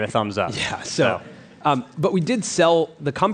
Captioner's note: laughs